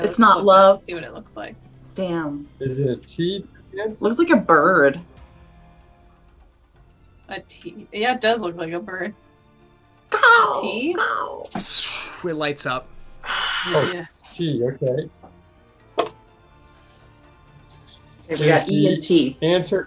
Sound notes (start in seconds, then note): 10.1 bird sounds